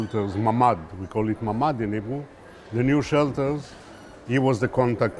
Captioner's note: hebrew